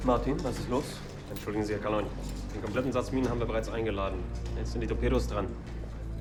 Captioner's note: speaking in foreign language